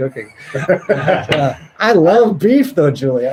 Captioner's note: laughs